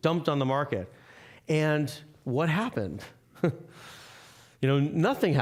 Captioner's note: chuckling